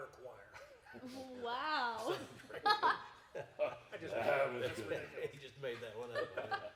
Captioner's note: chuckling